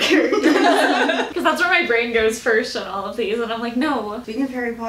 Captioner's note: laughter